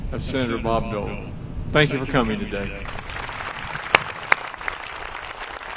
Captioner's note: applause